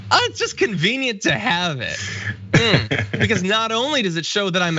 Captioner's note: laugh